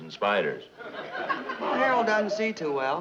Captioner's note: audience laughing